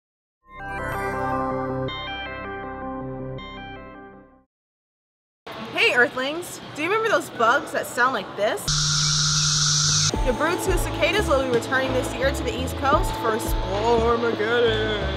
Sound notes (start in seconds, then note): 8.6 cicada Buzzes